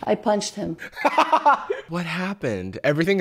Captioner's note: laughs